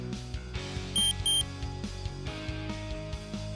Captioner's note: two short beeps